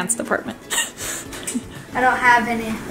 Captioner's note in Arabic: تضحك